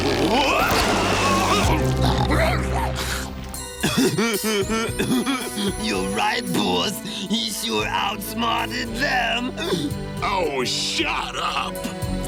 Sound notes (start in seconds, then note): 3.5 laughing